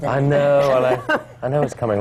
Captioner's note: laughter